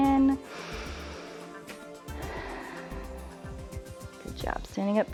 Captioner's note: inhales and exhales